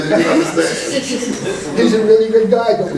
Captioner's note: laughing